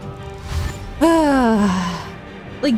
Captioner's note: long sigh